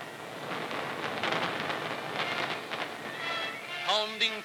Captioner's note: explosions